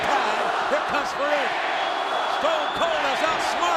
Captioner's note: audience chanting